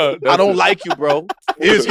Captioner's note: laugh